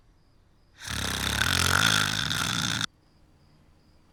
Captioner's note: snoring noisily